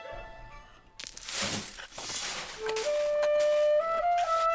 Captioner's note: digging